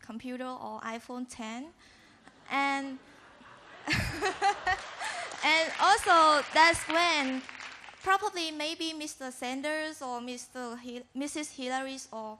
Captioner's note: laughter